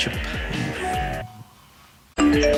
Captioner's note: beeping